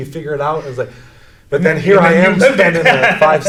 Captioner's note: laughs